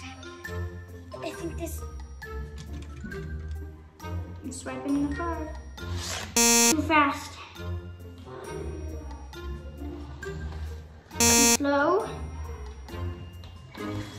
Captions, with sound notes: - I'm swiping the card (beeps) Too fast. (beeps) Too slow.